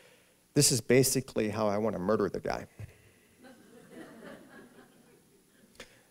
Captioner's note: subdued laughter